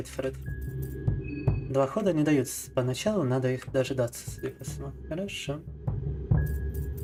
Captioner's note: speaking in foreign language